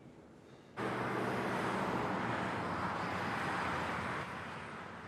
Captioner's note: traffic humming